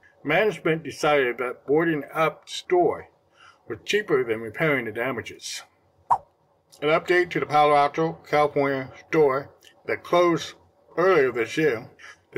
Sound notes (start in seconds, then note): 6.1 swipe Sound